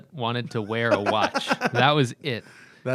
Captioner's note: laughter